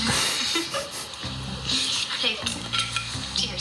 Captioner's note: laughter